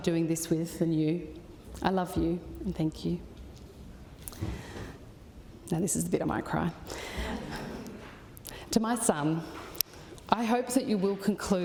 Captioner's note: laughter